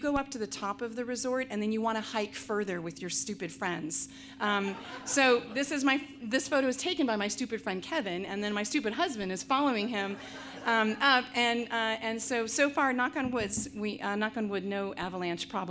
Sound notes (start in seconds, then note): 4.5 audience laughs